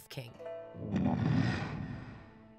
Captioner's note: Appa grunting